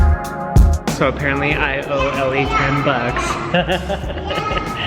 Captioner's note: bright jazz music; laughs